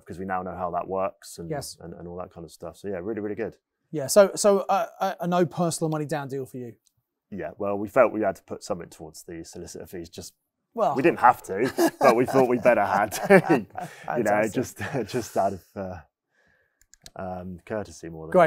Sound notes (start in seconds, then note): 11.0 laughs